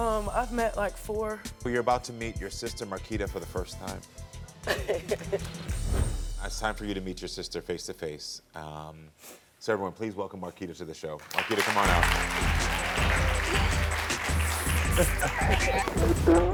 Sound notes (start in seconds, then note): 4.6 chuckling; 11.2 audience applauding; 11.2 casual upbeat music